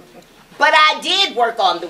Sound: none

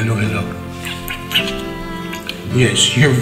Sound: lips smooching

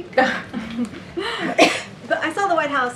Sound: laughs

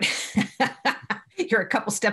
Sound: laughs

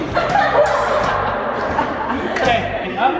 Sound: laughs

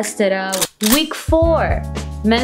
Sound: gun click

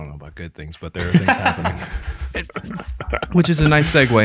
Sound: laughs

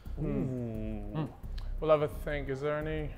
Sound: Sidemen exclaiming

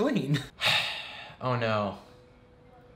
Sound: sighs

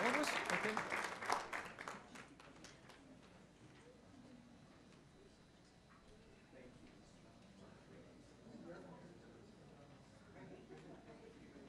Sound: applause

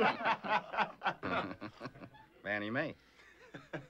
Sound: chuckling; laughter

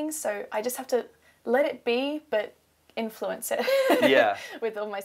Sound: laughs

